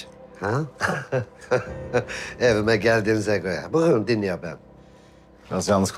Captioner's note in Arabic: يضحك